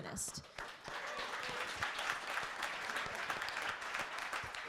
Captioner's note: crowd applauds